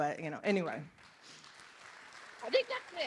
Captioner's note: applause